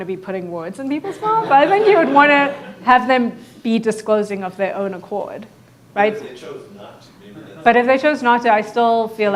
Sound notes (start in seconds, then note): 1.0 audience laughing